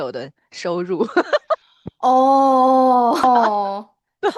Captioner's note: haha